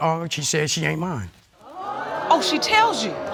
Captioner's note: audience gasps